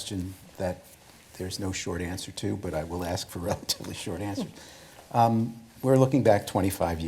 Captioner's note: laughs